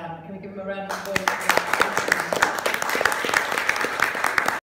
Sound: applause

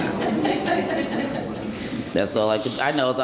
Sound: courtroom laughing

